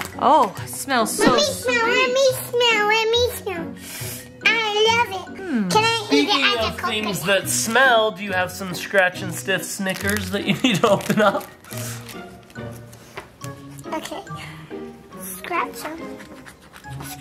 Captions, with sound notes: Oh. Smells so sweet. - Let me smell! Let me smell! Let me smell. (nose sniffs) I love it. - Speaking of things that smell, do you have some scratch and stiff stickers that you need to open up? - Okay. Scratch 'em. (fingers scratching)